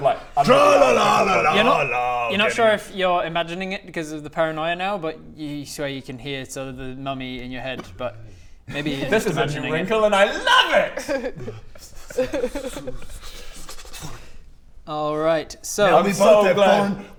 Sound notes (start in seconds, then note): 12.0 Bodger shudders; 12.0 laughs